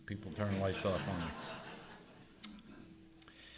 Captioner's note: audience laughing